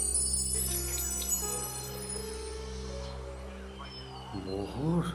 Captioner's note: metal Screeching